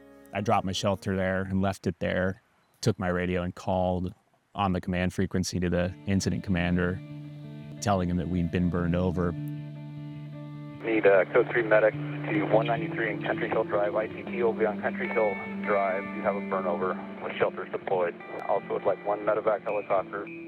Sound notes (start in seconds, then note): 10.7 radio